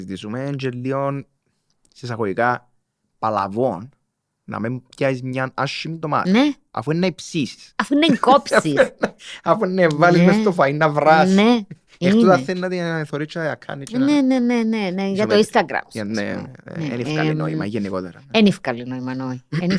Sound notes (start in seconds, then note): 8.0 he laughs